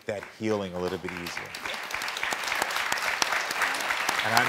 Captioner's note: crowd clapping